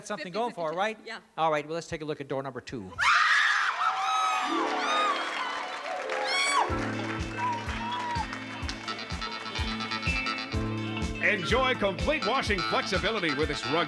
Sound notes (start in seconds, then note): 3.0 screams